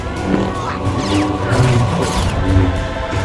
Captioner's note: lightsaber hums and clashes